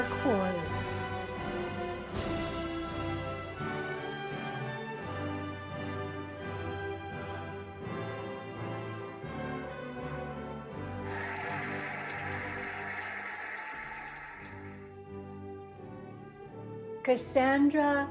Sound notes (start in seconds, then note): 2.4 cheerful music; 11.0 cheering and applauding